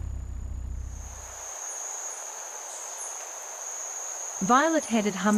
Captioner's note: birds chirping